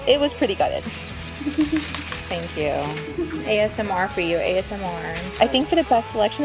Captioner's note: leaves shaking, giggles